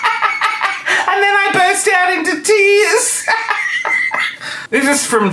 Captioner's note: laughing; laughing